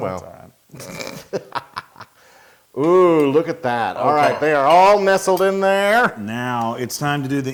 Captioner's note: laugh